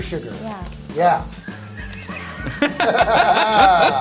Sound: laughter

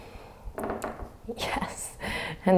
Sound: floor creaking

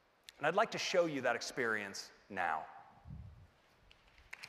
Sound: applause

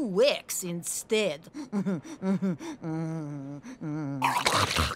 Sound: chuckles

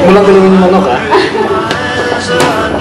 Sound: Jane laughs

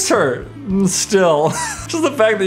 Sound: laughs

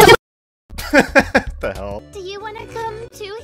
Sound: laughter

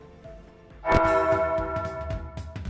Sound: church bell rings

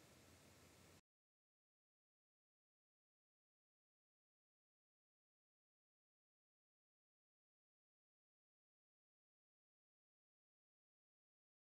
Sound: silence

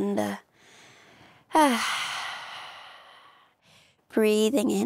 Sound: sigh out

